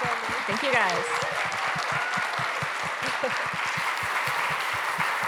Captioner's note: applause